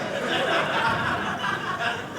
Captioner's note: audience laughing